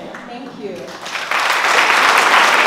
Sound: applause

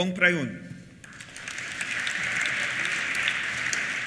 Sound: applause

